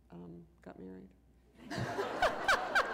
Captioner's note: laughter